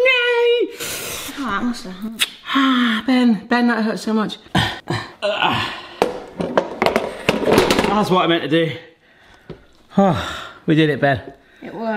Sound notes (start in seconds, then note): 5.2 grunting